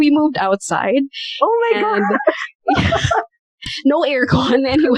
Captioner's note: laughter